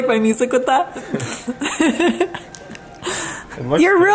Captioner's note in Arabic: يضحك